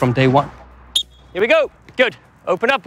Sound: whistles

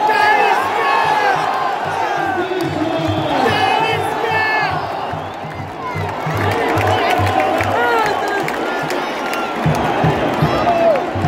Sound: clap

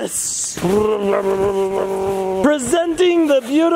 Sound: playful roaring

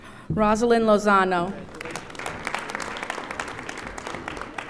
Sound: audience applauding

